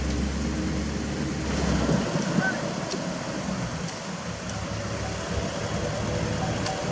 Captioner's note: truck acceleration